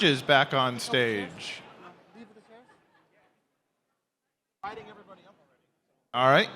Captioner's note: chatter